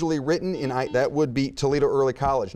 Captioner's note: buzzer beeping